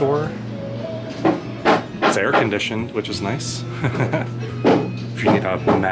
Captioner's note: laughter